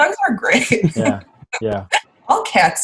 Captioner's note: laughing